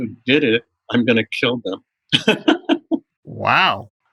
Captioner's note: laughter